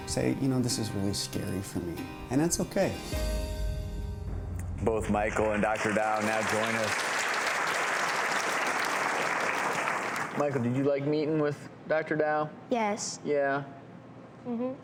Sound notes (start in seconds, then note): 7.7 audience clapping